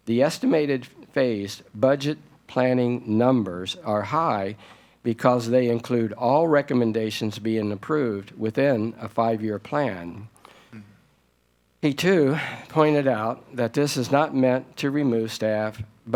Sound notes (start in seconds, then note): none